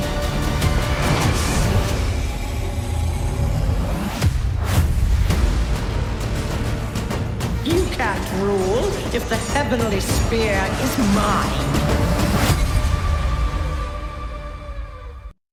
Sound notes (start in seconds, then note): 2.0 harmonizing roars; 13.5 music fades